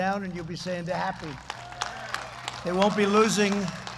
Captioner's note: applause